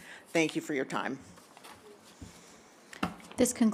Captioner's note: paper rustling